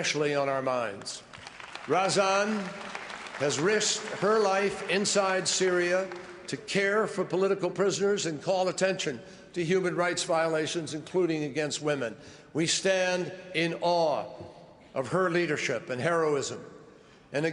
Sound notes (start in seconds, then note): 2.5 applause